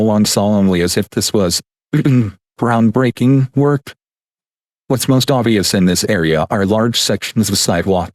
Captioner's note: ahem